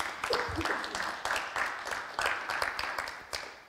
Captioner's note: applauses